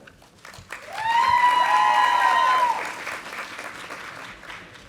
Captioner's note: audience applauding